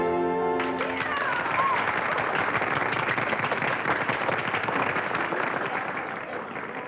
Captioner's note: applause